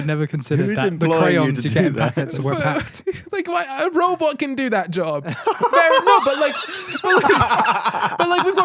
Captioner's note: laughing